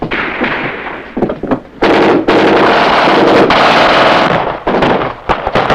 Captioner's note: soldier speaks in foreign language; guns fire